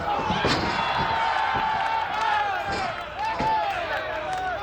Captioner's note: audience cheers